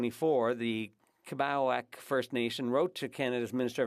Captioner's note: speaking French